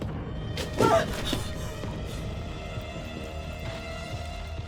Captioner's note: Lorena grunts